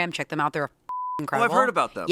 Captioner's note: beep